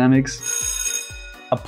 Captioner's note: bell rings